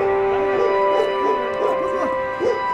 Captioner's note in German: Hundegebell